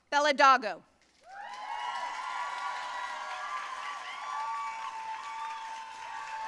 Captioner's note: audience cheering and applauding